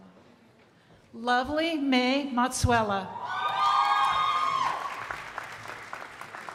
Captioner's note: crowd applauding